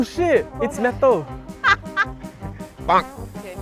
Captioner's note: laughing in disbelief